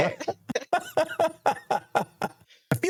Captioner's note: laughter